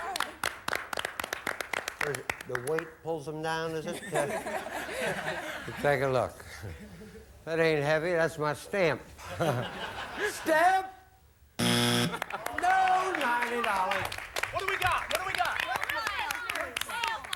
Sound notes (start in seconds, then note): 3.9 audience laughing; 9.2 audience laughing